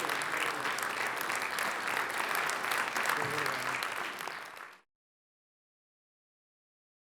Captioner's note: applause